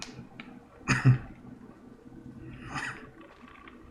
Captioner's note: coughs